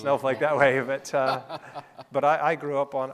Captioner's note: laughing